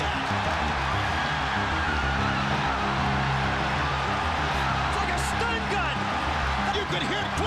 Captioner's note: applause